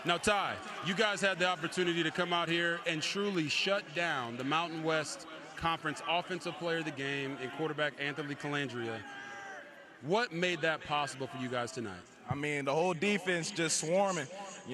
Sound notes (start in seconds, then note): 3.9 cheers